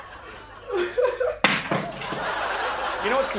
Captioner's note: laughter; bread thuds loudly